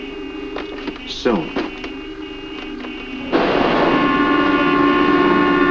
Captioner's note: horns honking